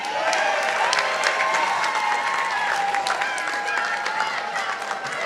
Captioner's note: participants applauding